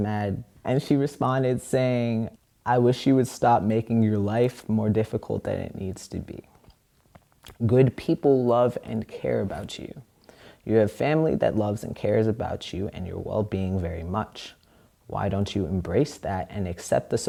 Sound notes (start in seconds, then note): none